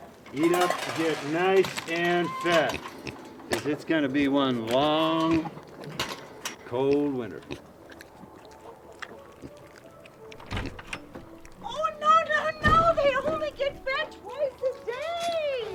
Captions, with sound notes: Eat up and get nice and fat, 'cause it's gonna be one long, cold winter. (gate clanks) (Otis lips smacking) (lightly grunting) (door latch clanks) - Oh no, no, no! (door slams) They only gets fed twice a day!